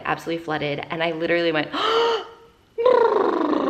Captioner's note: gasps